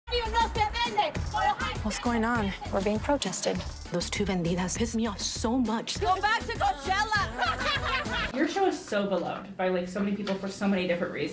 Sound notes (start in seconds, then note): 0.4 upbeat Spanish music; 6.0 protestors laughing